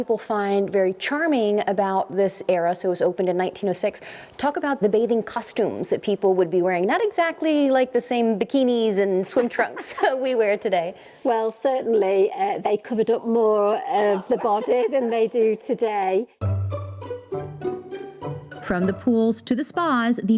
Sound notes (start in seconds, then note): 9.7 laughs; 16.4 buoyant music